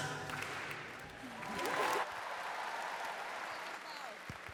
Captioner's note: crowd cheering